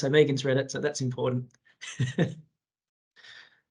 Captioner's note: he chuckles